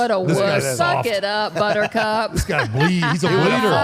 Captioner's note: laughs